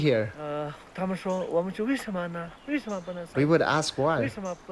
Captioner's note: mandarin